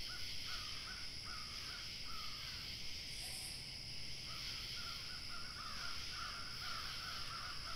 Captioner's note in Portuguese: som ambiente de pássaros ao longe, vento, calmaria